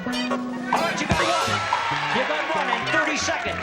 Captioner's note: cheering